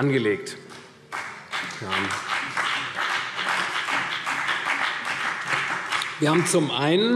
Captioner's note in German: Beifall CDU und BÜNDNIS 90/DIE GRÜNEN